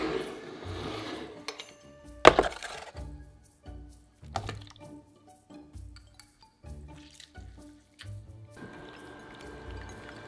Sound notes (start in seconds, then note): 4.3 peaches dropping